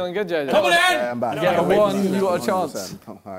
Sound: crowd mumbling

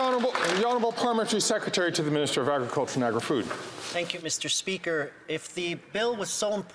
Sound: some Applause

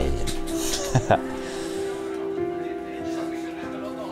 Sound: laughs

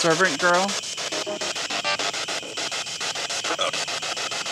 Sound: static pulsing

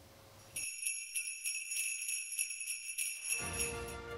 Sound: sleigh bells

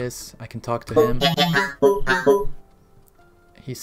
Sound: robot noises

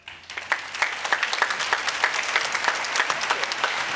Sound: applause

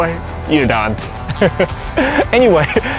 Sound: chuckles

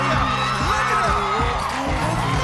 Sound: crowd cheering

